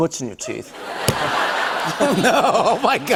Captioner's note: laughter